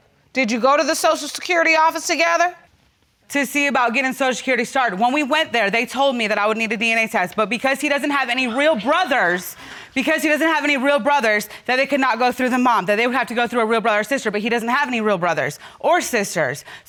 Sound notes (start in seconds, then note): none